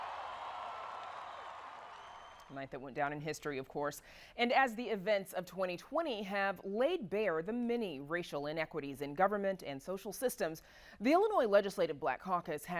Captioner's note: cheering